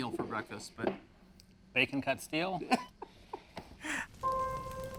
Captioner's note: laughs